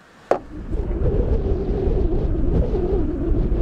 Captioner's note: whistling